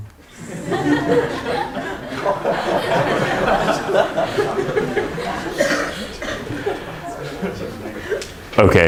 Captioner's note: laughter